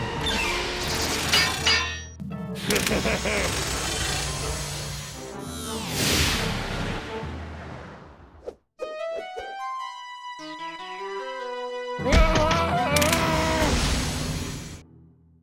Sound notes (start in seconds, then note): 1.3 metal clinks; 2.6 evil laugh